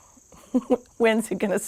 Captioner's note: chuckles